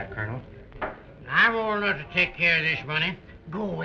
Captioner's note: slurring